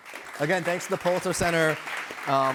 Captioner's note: applause